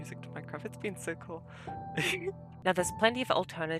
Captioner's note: laughs